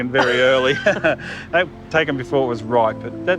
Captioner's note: both laugh